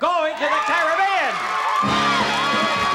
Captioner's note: cheering